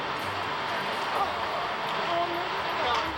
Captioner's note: groans